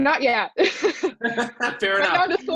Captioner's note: laughs